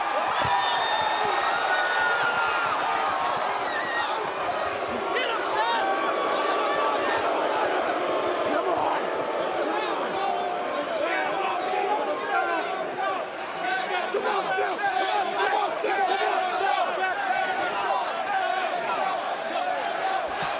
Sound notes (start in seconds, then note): 5.9 crowd chatter; 13.4 crowd cheering; 16.4 crowd cheering